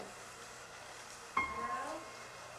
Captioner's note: female voice off camera